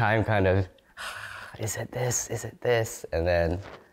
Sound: sighs

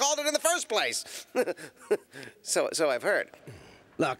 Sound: chuckles nervously

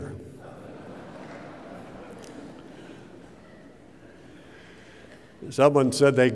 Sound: laughter

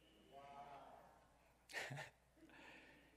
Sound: crowd

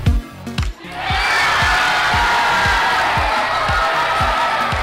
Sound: all cheering

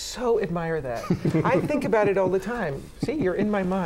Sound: laughter

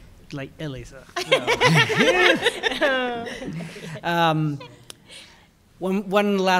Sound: laughter

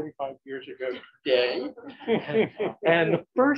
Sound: laughter

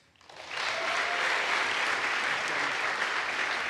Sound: audience applauds

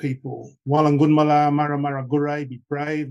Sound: speaking traditional language

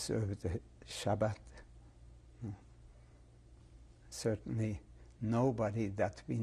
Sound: pauses for 3 seconds

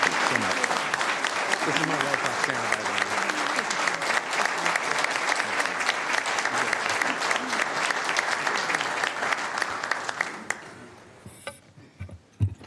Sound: applase

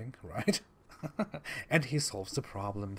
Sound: laughs like a disgusting psychopath

